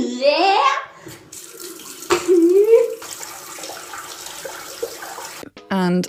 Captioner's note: gasp; water running